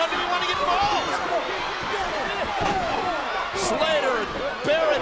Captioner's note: crowd yelling; wrestlers chattering